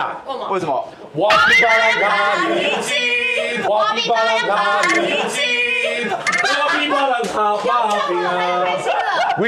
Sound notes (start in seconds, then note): 3.6 snicker; 4.8 laughing